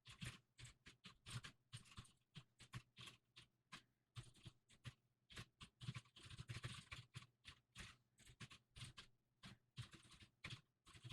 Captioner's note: typing sounds